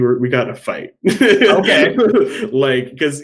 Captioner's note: laughing